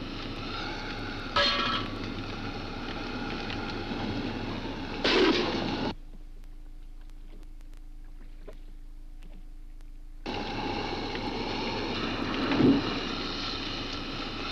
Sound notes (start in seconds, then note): 0.8 car part clangs; 4.5 car part clangs; 5.6 water laps; 10.2 car hisses